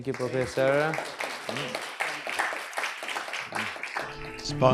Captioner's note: applause